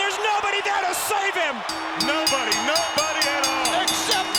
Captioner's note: bell dinging